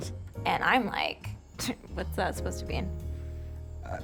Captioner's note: scoffs